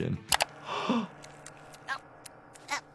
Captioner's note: gasps